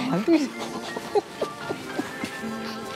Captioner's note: laughs